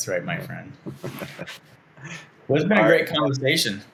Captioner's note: laughing